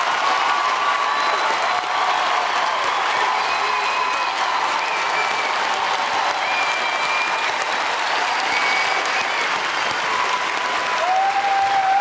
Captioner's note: cheers and applause